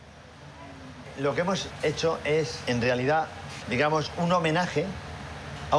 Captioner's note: speaking foreign language